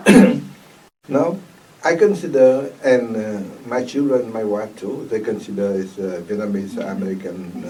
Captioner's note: clears throat